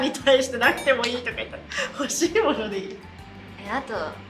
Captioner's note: laughs